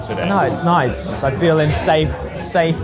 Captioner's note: none